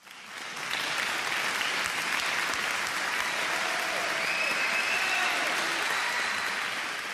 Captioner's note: applause